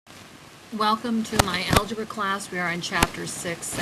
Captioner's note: voiceover